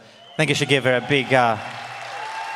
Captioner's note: audience applauds and cheers